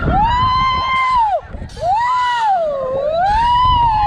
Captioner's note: riders screaming